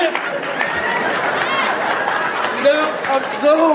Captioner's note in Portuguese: Aplausos